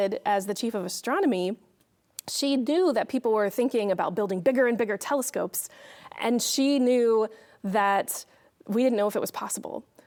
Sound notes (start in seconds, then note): none